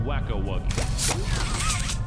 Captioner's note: zipper